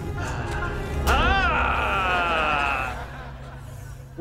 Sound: groaning

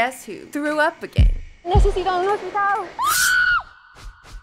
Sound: in Spanish

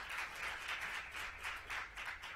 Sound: applause

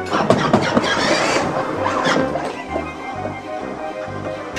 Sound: tank engine revs

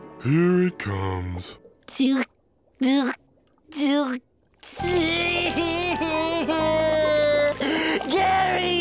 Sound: crying

